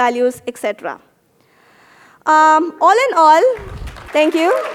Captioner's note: applause